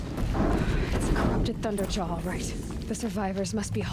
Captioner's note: sigh